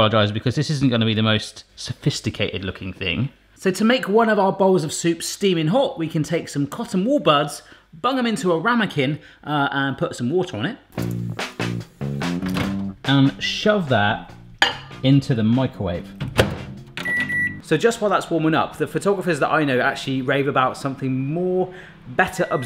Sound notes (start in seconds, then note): 10.9 upbeat funky music; 17.0 microwave beeping